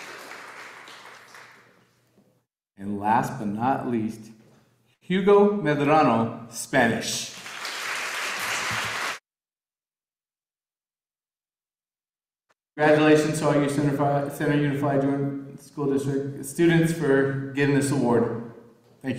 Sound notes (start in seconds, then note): 7.3 audience applauding